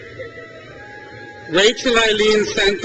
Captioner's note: crowd cheers